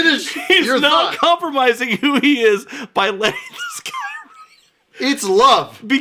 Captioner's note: wheezing